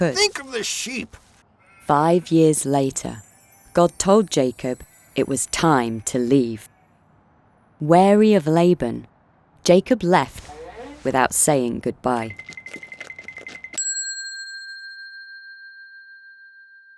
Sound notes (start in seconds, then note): 13.9 bell dinging